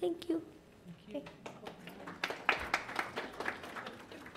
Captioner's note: applause